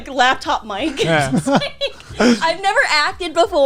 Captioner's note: laughing